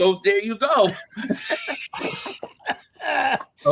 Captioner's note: laughing